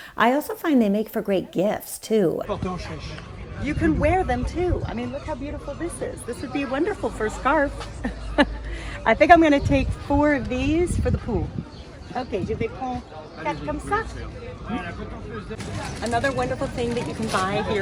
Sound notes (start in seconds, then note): 2.6 vendor speaks French; 8.0 laughs; 13.2 speaks French